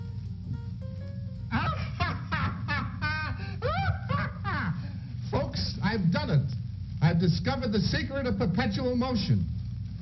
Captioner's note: laughing maniacally